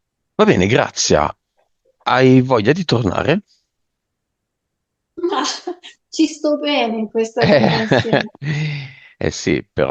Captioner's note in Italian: risate